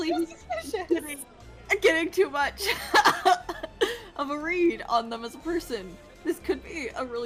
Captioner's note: laughs; laughs